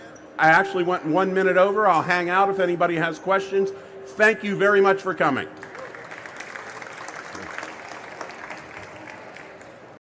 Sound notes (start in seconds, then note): 5.5 applause